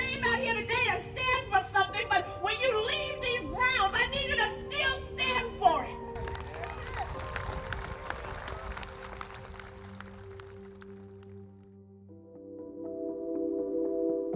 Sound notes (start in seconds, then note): 6.1 crowd applauding; 11.5 gentle music